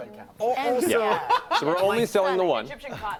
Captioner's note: laughter